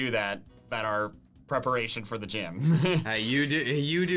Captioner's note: laughs